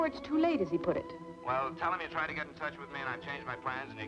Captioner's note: on telephone